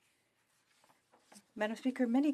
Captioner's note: speaking French